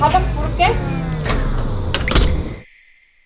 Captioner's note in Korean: 문 닫는 소리